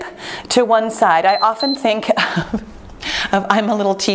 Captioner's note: timer beeps